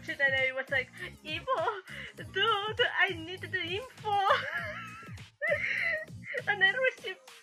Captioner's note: chuckles